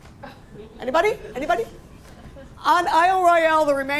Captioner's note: laughter